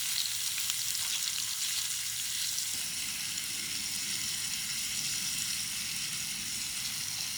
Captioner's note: openfire cooking sounds